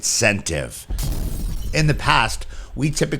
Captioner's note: glass shattering